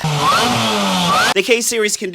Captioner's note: car engine revving